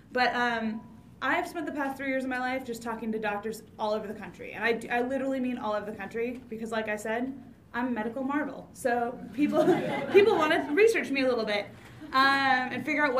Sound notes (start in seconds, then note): 9.4 audience laughs